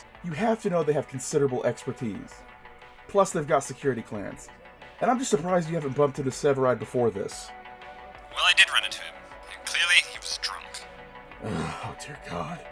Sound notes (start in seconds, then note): 8.4 radio voice; 9.5 muttering